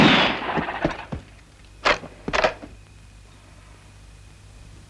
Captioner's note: gun firing; rifle clicking